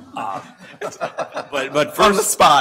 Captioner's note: laughter